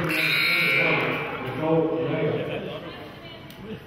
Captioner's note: buzzer honks